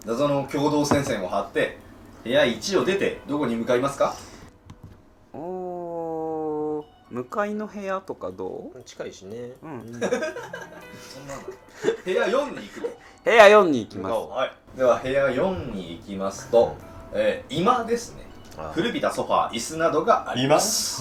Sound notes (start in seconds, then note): 9.6 laughing